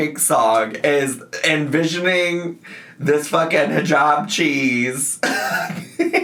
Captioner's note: laughs